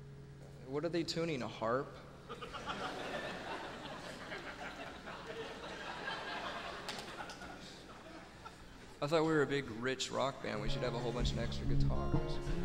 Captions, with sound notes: What are they tuning, a harp? (audience laughing) I thought we were a big rich rock band, we should have a whole bunch of extra guitars.